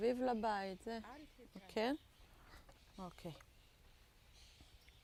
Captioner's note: hebrew